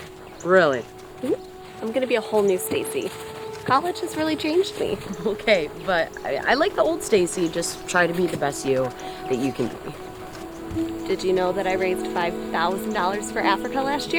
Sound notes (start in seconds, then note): 4.9 chuckles